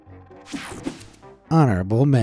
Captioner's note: screen whooshing